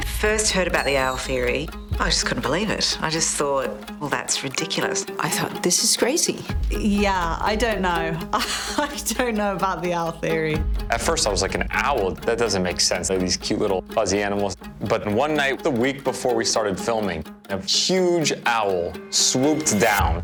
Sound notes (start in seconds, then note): 8.3 laughs